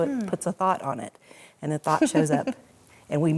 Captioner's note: laughs